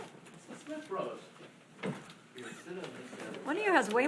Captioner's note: speaking faintly